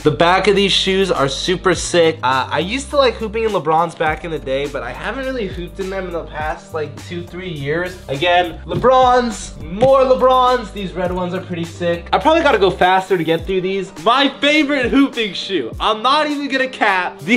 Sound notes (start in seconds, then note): 9.6 hand smacks